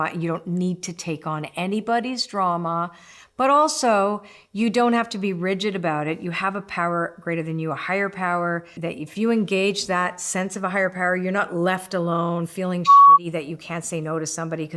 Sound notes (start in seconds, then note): 12.8 beep